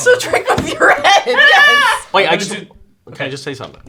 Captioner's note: laughing